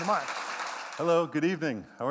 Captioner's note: applause